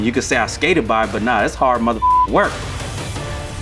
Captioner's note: beep